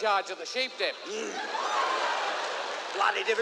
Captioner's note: grunts